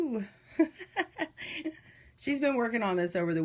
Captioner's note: laughing